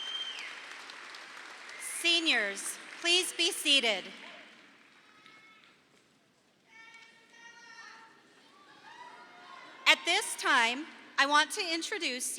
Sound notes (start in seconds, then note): 6.7 audience cheering